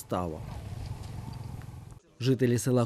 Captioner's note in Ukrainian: Їде мотоцикл